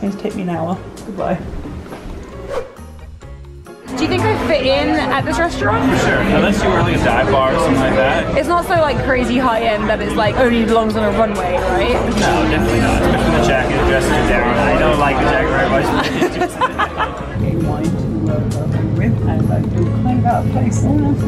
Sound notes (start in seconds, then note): 2.1 whooshing; 3.3 upbeat music